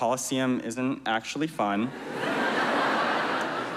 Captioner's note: laughter